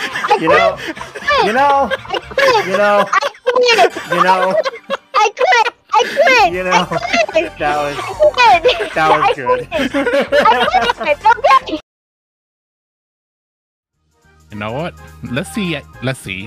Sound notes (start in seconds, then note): 7.1 chuckles; 11.5 laughing